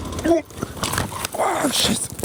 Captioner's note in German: schnauben